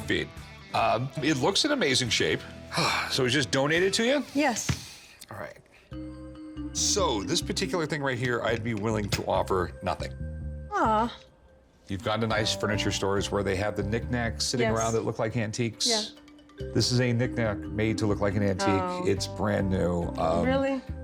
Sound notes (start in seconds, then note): 2.7 sighs